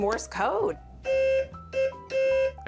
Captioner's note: beeping